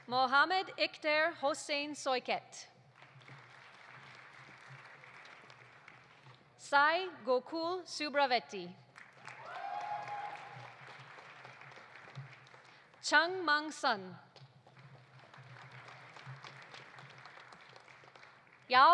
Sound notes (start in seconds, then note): 2.9 audience applauding; 8.9 audience applauding; 9.2 audience cheering; 14.6 audience applauding